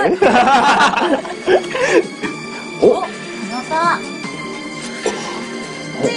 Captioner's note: drone